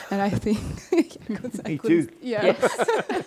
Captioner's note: laughs